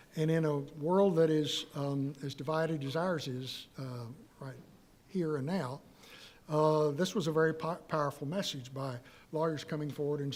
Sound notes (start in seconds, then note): none